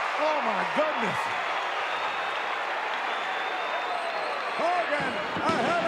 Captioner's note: audience cheering